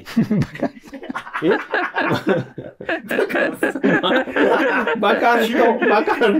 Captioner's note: laughing